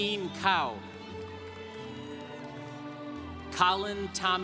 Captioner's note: congregation applauding